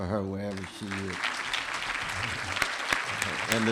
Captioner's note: applause